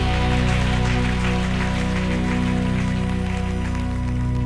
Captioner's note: applause